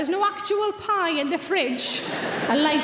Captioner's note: audience laughing